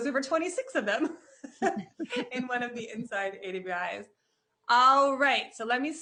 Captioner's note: chuckles